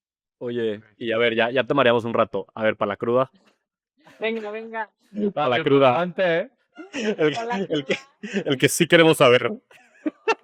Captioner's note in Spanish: risas